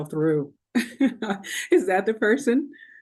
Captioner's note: chuckling